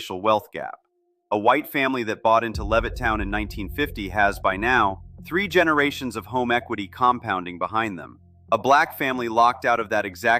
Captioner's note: thoughtful